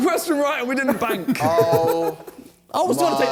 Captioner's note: men laughing